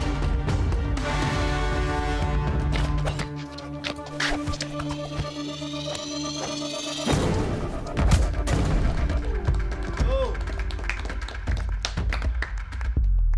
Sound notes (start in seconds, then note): 0.2 upbeat dramatic music; 3.3 arms and legs whooshing; 7.1 punch striking; 9.0 group applauding